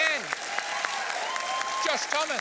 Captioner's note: applause